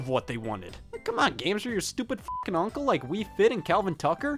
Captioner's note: beep